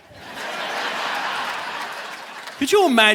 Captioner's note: audience laughing